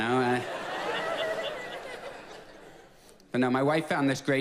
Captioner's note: audience laughs